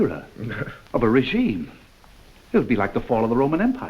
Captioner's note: Fedor chuckles